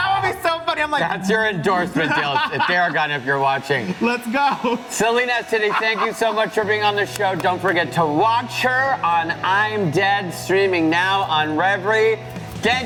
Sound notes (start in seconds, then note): 3.8 laughs